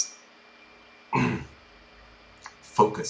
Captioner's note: grunt